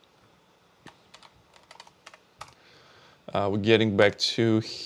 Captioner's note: keyboard clicking